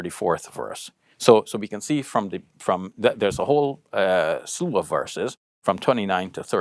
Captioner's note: speaks Arabic